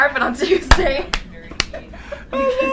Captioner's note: clapping